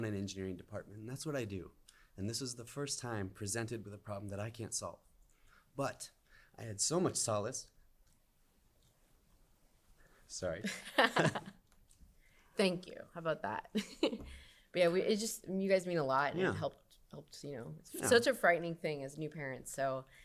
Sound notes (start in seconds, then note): 7.7 laughter; 13.7 laughter